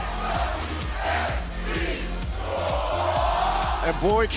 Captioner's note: fans chanting